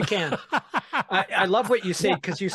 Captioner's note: laughing